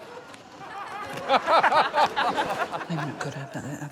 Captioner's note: laughter